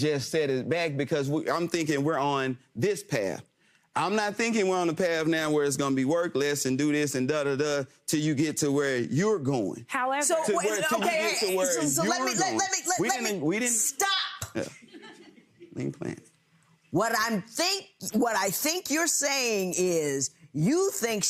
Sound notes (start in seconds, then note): 14.7 audience chuckles